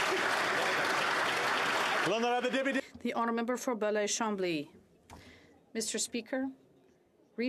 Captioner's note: applause